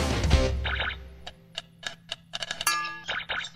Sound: socket clicking

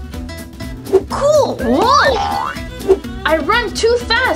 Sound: spring sound effect

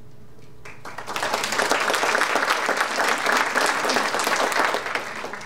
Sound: audience applauding

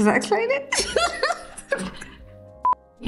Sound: laughing

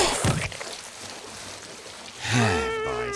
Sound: sighing

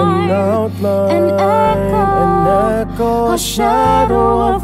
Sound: an echo

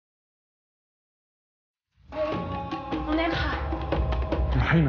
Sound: speaking in foreign language

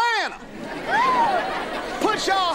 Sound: cheering

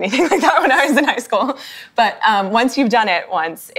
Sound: laughs

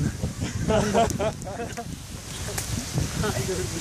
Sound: laughs

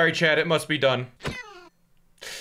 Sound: sad cat crying

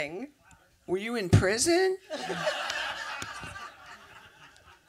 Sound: big laughter

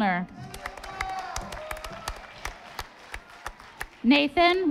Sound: audience applauding

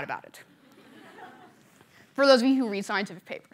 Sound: laughter

